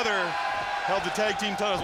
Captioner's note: fans cheering